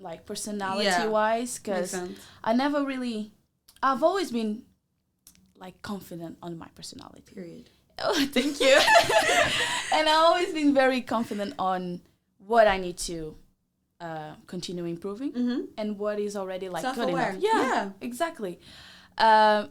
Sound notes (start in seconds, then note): 8.6 both laugh